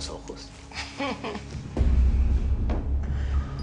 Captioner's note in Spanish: Risas